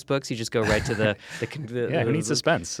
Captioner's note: chuckles